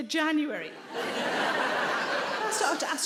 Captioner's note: audience laughs